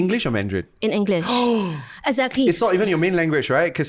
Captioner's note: gasps